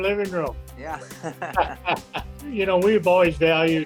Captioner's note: laughs